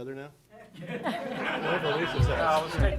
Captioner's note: audience laughing